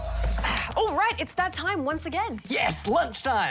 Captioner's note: sighs